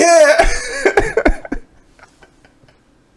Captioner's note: both laughing